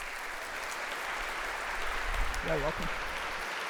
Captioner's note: round of applause